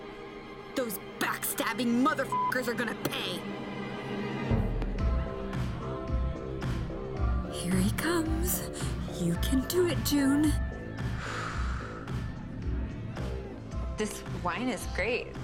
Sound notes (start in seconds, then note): 11.1 exhales